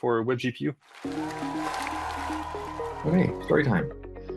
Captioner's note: applause